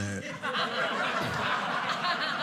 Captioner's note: audience laughing